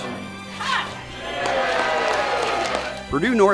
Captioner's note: cheering